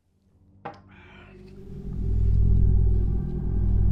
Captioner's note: threatening ambient music distorts; A threatening electronic rumble